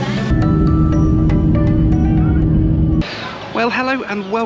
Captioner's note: engine roaring